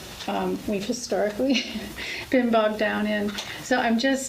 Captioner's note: laughs